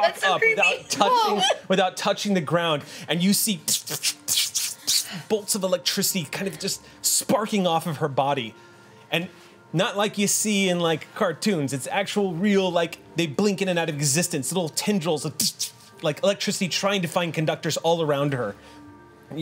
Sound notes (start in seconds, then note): 3.7 imitates electricity sparking